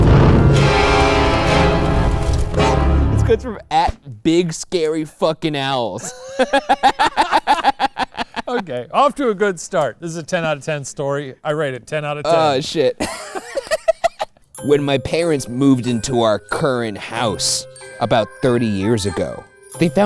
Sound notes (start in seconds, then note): 0.0 spooky music; 5.9 both laugh; 13.0 laughs